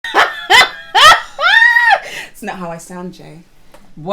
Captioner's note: laughs